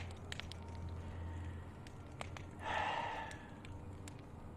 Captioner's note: he breathes deeply, sighs